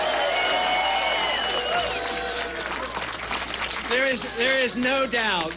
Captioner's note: applause